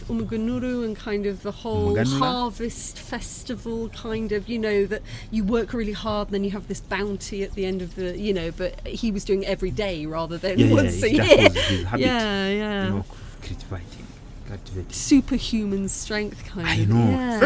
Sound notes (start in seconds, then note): 10.7 laughing